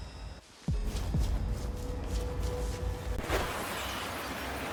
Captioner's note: suspenseful music; water splashing